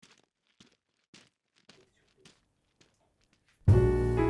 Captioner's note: footsteps crunching; lively music